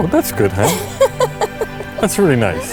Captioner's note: laughs